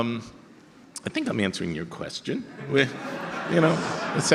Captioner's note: audience laughter